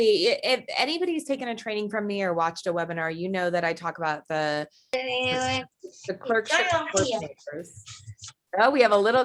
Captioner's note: background voice